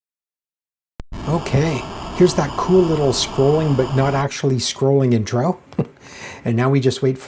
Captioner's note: chuckles